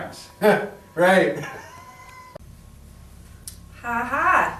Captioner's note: snickers